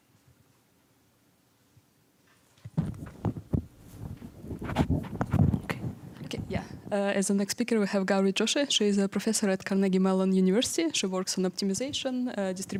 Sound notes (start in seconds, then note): 4.8 mic rustling